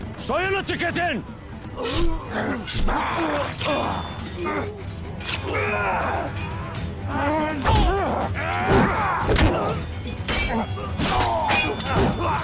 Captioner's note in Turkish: Vuruşma ve kılıç sesleri